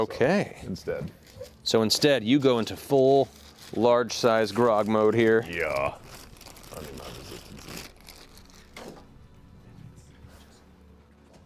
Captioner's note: impact sound